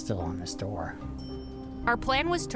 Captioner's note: elevator dinging